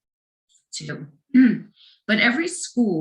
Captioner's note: clears throat